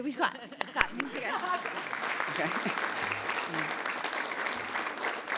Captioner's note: audience applauds